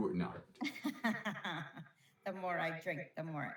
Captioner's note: laughs